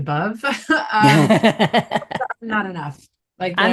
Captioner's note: both chuckling